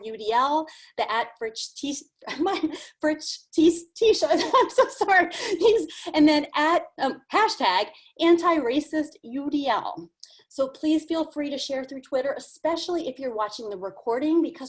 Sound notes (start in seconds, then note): 3.0 laughs